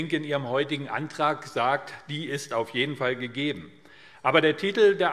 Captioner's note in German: none